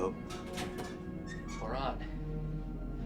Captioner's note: door creaks